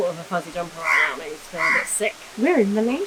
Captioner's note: bird squawking